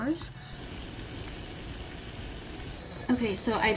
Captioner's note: boiling